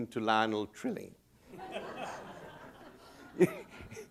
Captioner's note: laughter